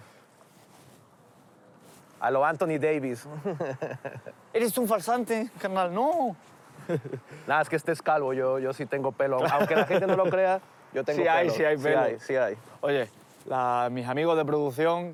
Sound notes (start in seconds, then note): 4.5 mexican accent